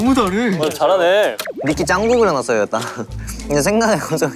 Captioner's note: nom nom